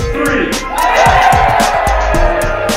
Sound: student screams

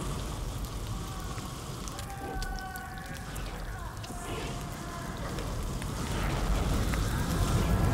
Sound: infernal sounds and the groans of the damned

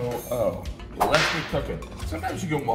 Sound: whip cracking

